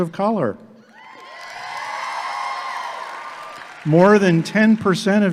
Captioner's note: audience clapping and cheering